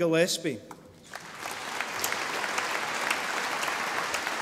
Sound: audience applauding

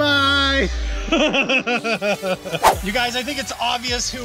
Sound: laughter

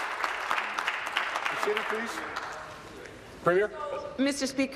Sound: applause

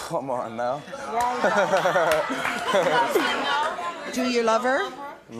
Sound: audience clapping; laughing

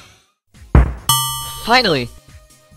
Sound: ding

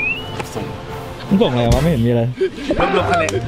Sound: pat

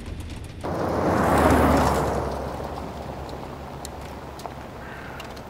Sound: car engine roars

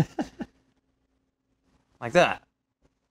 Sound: laughing

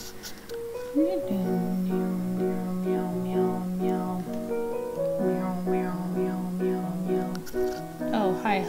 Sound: vocalizing but this time it's meow-like

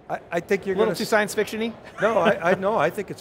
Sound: laughs

